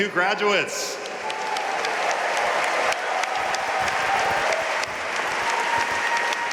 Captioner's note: audience cheering and applauding